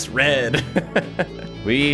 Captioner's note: laughs